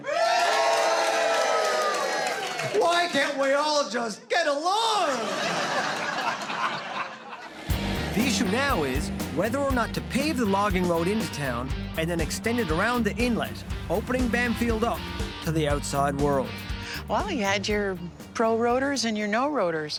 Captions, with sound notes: Why can't we all just get along?! (laughter) The issue now is whether or not to pave the logging road into town and then extend it around the inlet opening Bamfield up to the outside world. Well you had your pro roaders and your no roaders.